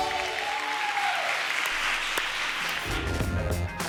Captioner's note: applause